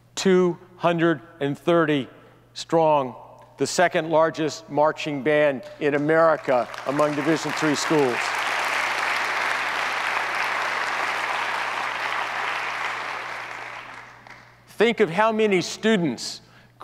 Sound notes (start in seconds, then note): 8.4 audience applauds